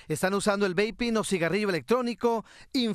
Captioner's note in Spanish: hablan en inglés